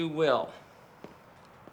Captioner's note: footsteps approaching